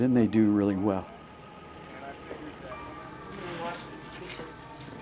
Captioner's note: chattering